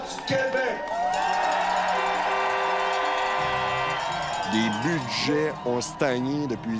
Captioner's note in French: cris de la foule